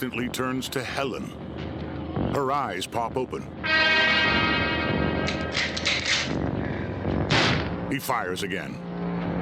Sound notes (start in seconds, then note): 3.6 dramatic chord; 5.3 rifle cocking; 7.2 gunshot